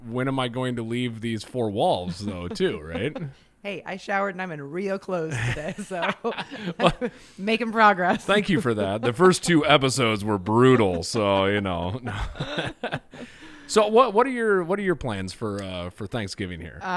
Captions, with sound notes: when am I going to leave these four walls though, too Right?. - Hey, I showered and I'm in real clothes today. (chuckles) - So making progress. - Thank you for that the first two episodes were brutal. So, you know, (chuckling) so what are your plans for Thanksgiving?